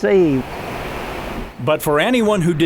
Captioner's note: water flowing